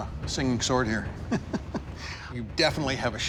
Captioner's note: chuckles